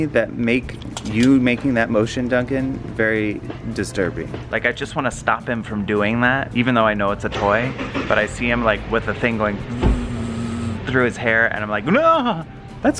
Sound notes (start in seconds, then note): 9.6 imitates buzzing